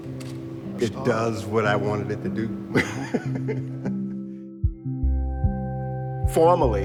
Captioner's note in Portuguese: risos